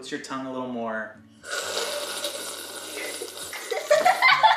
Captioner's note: slurping; laughing